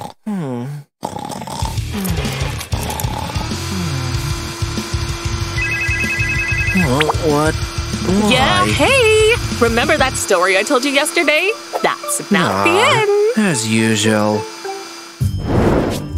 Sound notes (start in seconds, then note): 1.0 snoring